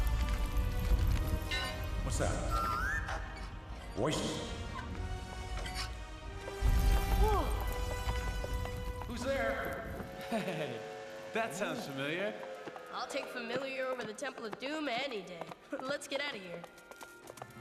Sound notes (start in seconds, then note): 1.4 metal clanks